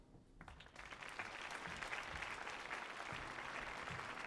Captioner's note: audience applauding